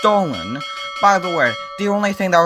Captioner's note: ding ding ding; ding ding ding ding